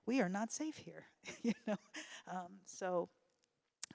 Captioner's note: laughs